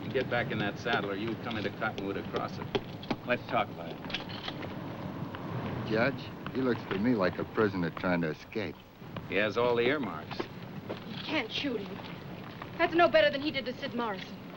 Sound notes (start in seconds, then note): 4.2 gun cocks